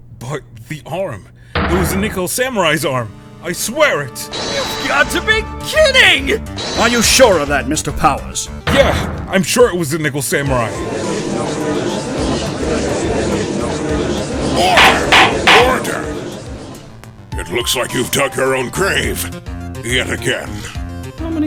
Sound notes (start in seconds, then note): 10.7 gallery chattering; 14.6 gavel slams!